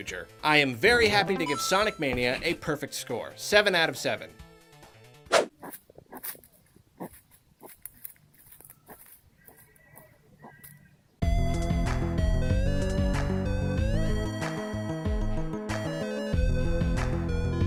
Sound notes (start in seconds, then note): 5.3 transition swoosh noise; 5.3 Hedgehog noises